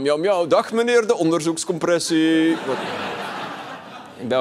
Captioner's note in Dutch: gelach